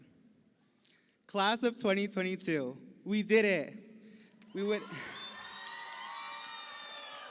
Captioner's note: chuckles